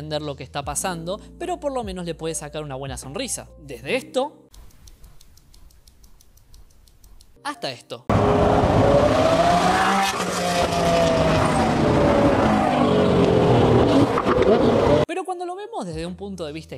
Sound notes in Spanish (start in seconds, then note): 4.6 ruido de reloj mecánico; 11.4 motor de jet acelerando